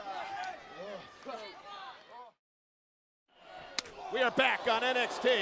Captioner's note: crowd chatter